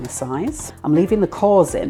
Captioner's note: chop chop chop